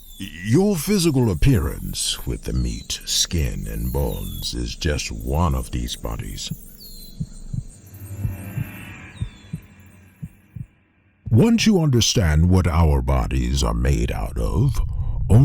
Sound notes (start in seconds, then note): 0.0 birds chirping; 7.1 heart beating